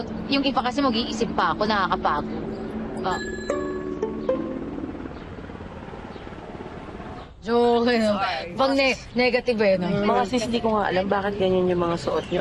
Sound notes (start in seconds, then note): 2.9 aircraft blades whirring